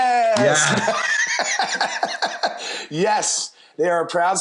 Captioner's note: laughs